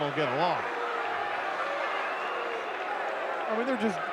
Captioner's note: audience cheering